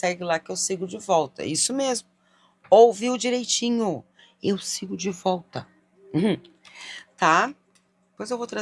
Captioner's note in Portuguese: limpando a garganta